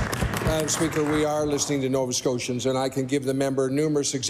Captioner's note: applause